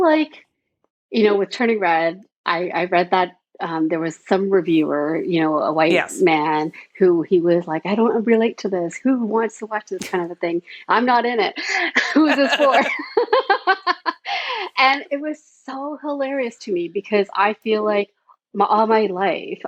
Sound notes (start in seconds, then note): 14.2 both laughing